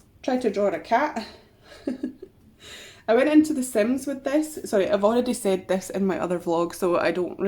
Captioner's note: laughs